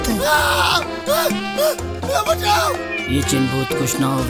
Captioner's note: screaming